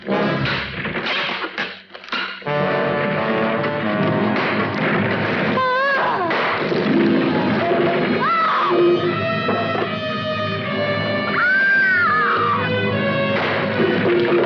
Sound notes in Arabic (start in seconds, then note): 7.6 صراخ